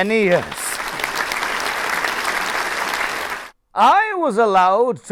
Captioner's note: applause